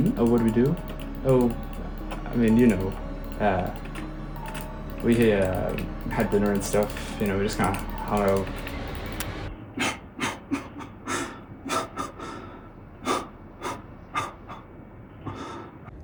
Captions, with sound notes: Hmm? Oh what did we do? Oh.. I mean you know.. uh.. we uh.. Had dinner and stuff.. You know we just kinda hung out.. *sobbing*